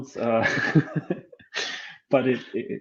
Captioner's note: laughing